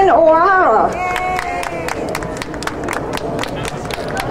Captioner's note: crowd applauding